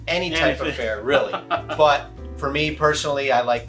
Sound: laughs

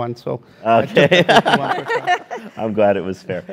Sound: laugh

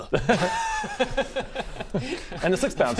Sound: innocent laugh

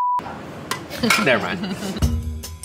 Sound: chuckling; jazzy percussion

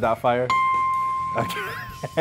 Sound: dings

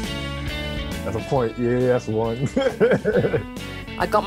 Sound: laughter

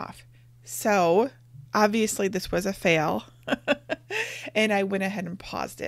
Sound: laughing

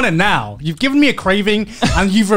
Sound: laughing

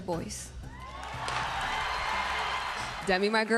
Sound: crowd cheering

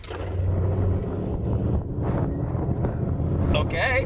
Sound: engine revving

